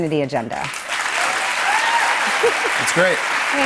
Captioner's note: cheers and applause